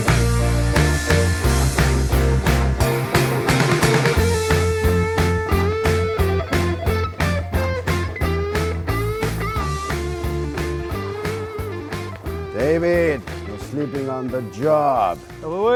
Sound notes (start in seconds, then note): 1.4 clock ticking; 3.2 attendees faintly speaking; 6.0 phone ringing; 9.9 tone droning